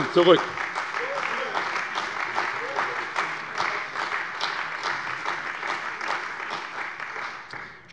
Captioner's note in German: Beifall bei der CDU